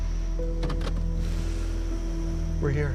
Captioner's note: hand brake clacks